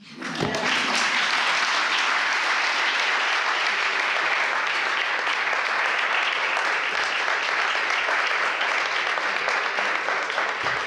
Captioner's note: applause